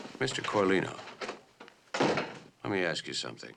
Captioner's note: door closes